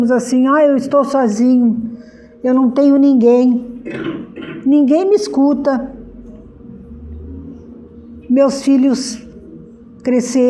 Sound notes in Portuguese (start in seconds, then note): 4.5 limpando a garganta